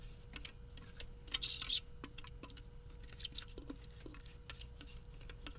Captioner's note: spatula squeaks